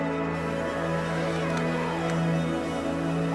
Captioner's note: sound of zipper opening